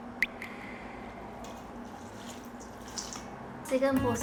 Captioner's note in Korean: 쥬르르륵